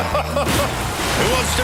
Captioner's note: laughter